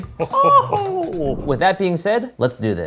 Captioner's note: air whooshing